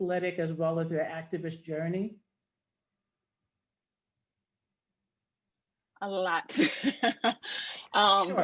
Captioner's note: laughs